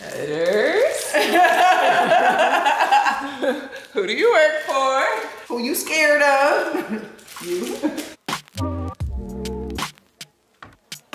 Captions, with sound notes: (laughing) Who do you work for? - Who you scared of? - You. (upbeat music)